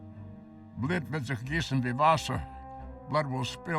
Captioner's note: speaking foreign language